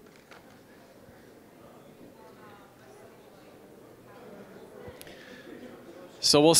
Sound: general chatter

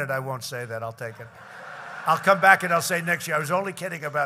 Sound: laughter

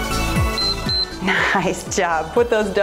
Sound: timer beeps

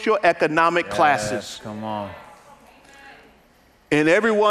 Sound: congregants agreeing

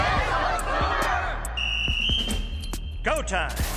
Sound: whistle blows

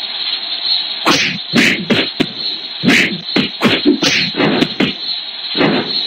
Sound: punching and kicking

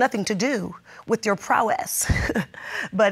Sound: laughs

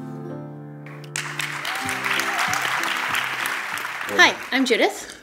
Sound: applause

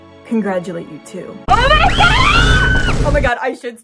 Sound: screaming

